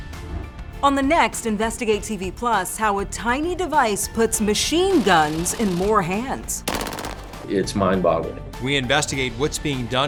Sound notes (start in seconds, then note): 6.5 gun popping